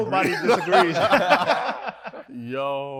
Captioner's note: participants laughs